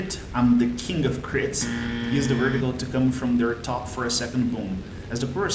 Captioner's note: sarcastic comment